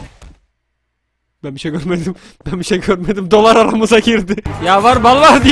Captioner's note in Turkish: Gülerek